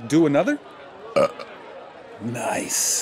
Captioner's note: enormous burp